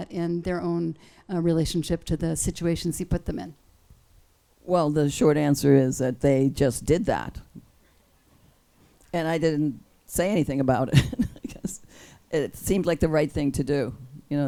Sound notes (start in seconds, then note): 10.9 laughs